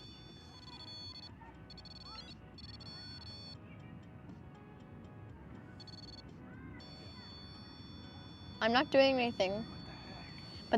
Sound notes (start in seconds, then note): 0.0 REM-Pod constant tone; 0.0 REM-Pod sounds with flashing lights; 6.3 REM-Pod constant tone; 9.5 whispers